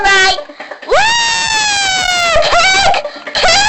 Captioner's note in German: Alle jubeln